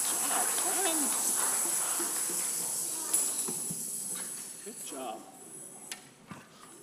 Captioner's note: congregation applauding; shakers rattling